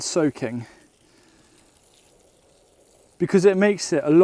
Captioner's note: water swishing